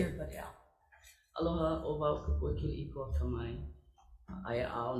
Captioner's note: greeting in Hawaiian